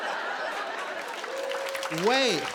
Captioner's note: laughter and applause